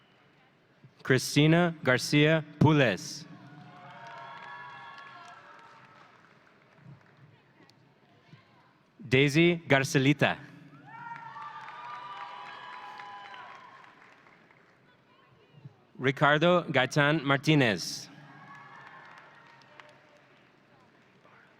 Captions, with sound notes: Christina Garcia Pules. (audience cheering) Daisy Garcilita. (audience cheering) Ricardo Gaytan Martinez. (audience cheering)